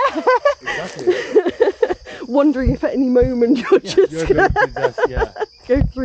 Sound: laughing

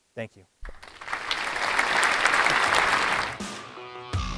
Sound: applause

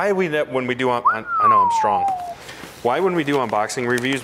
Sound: whistling

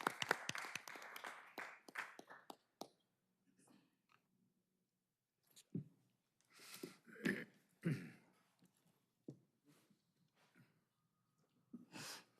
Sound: applause

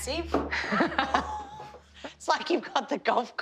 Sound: laughs; gasps

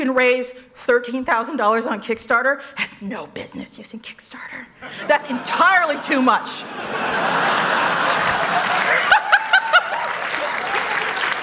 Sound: laughs

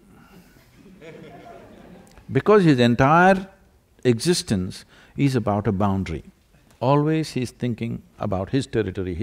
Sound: laughter

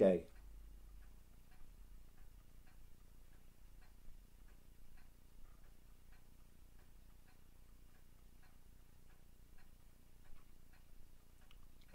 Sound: silence

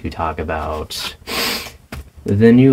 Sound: sniff

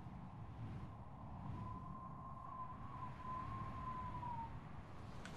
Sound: wind howling

